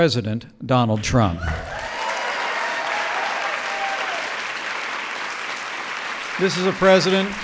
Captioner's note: applause